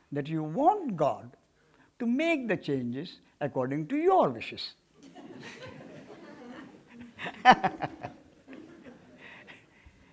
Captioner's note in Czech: smích